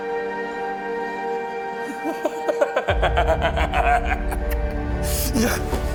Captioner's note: laughing